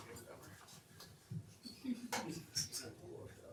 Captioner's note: laughs